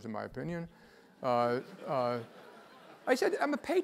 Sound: laugh

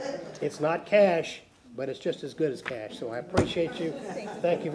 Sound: laughter

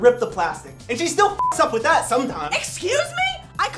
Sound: beep

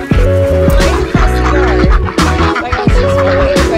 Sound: geese honking

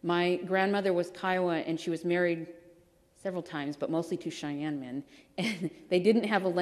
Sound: laughs

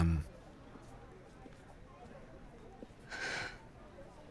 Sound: students chattering

